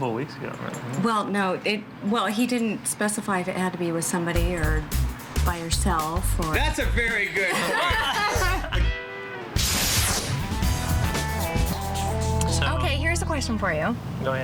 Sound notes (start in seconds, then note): 7.1 laughing; 10.0 upbeat music